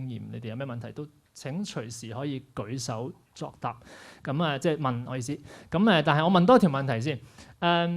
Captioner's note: none